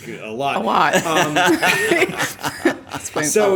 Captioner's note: laughter